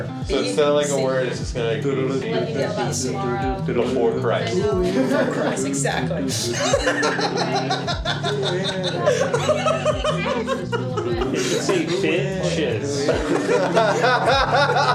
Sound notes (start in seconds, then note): 6.9 hahahahaha; 11.0 hahahaha